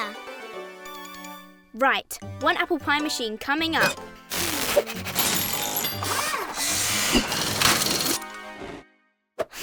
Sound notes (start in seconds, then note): 0.3 happy music; 4.5 tools whirring and buzzing